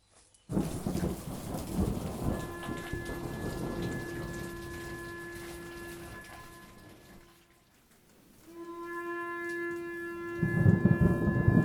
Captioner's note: sound of horn blowing, thunder and rain